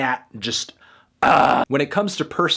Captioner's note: yells